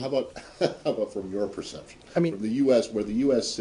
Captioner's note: laughter